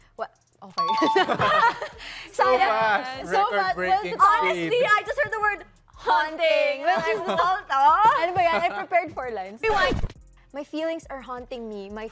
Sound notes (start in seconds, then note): 1.0 laughter; 10.1 record scratches